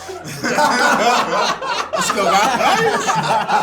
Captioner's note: all laugh